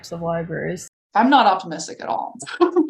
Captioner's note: laughs